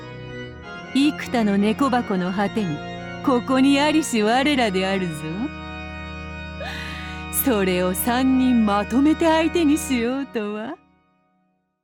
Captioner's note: cackle